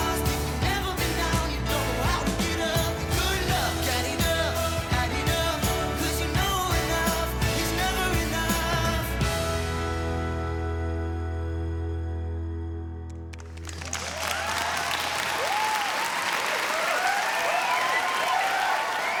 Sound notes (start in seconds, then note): 9.7 song ends; 13.3 cheering and applause